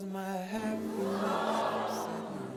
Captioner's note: audience gasping